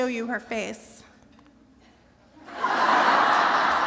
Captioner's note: laughter